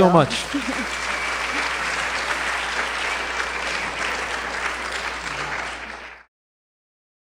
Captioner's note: applause